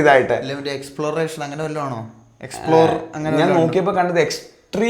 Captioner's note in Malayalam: തൊണ്ട ശരിയാക്കുന്നു